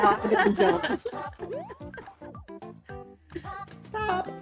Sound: both Laugh

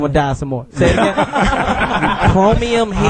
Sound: all laugh

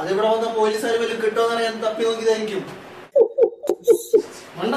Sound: laugh

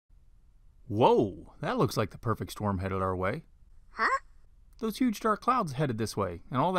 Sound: man's voice

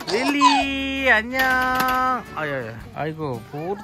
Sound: slam!

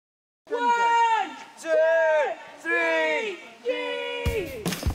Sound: cheering

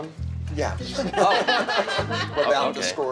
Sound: laughter

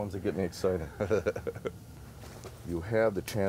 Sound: laughing

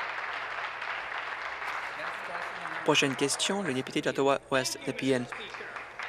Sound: applause

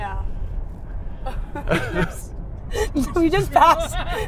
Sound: laughing

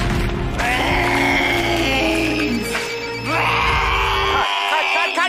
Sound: phone ringing

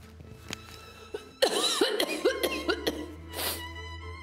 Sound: coughs

